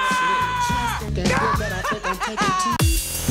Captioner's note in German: Gelächter